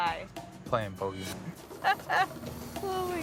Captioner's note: laughs